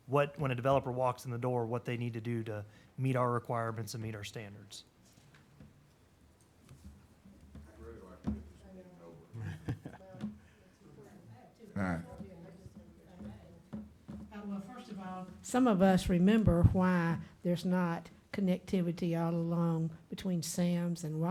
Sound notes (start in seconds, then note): 9.3 laughter